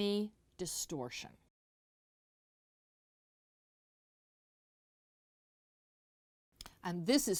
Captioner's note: no Sound Present